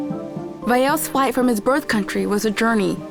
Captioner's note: in English